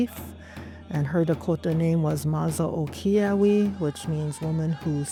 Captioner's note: speaking in Dakota language